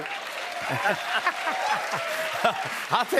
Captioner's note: cheers and applause